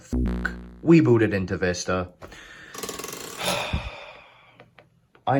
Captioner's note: deep breath of disappointment